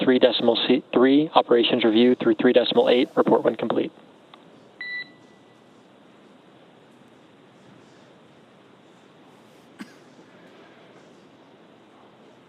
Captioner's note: beep